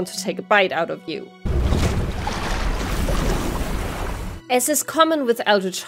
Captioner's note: sound of a creature taking a bite out of you